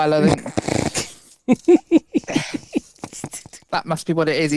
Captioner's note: laughs